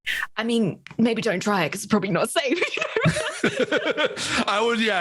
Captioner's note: laughs